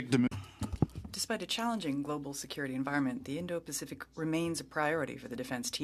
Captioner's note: speaking French